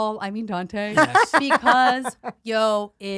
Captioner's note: laughs